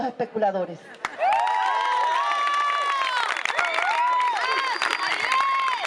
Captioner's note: applause